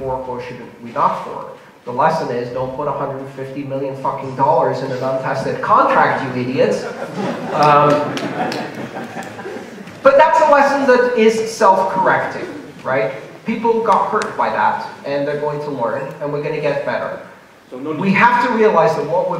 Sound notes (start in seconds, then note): 6.8 laughter